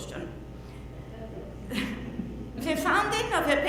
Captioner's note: laughs